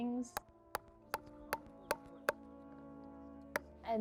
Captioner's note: hammering